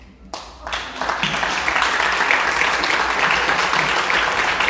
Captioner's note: audience clapping